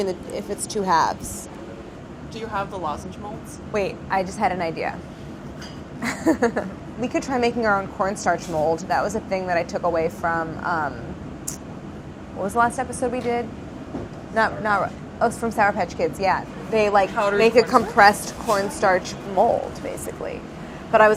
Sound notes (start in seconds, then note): 6.0 laughs